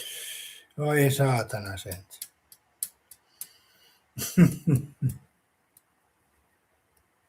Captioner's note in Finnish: naurua